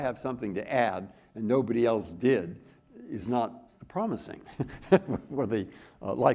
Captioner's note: chuckles